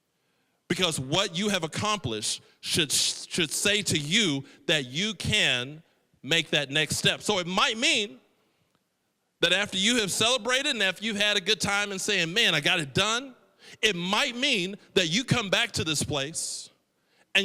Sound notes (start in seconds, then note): none